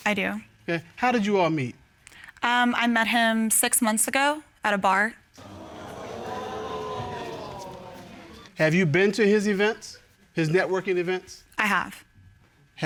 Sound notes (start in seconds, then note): 5.4 audience gasping